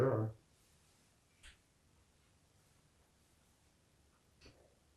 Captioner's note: pauses 6 seconds